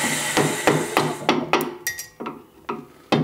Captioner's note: hammering